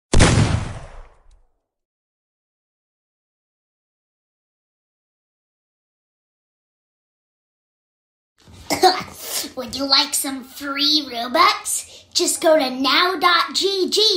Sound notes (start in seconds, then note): 8.6 cough